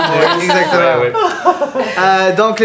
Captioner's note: laughter